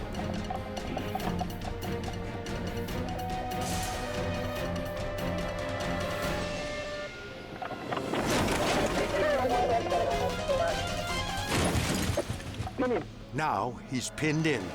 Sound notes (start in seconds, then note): 0.3 tense suspenseful music; 7.5 car crunching